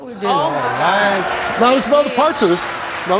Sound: audience jeers

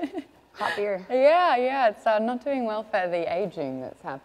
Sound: laughs

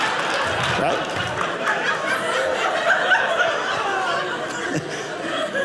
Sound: audience laughing

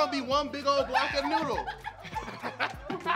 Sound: laughing

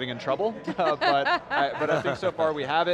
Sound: laugh

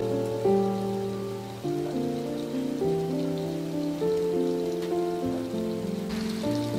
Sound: boiling

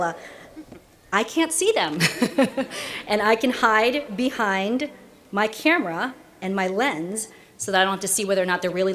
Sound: laughter

